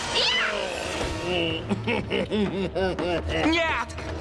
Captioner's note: chuckling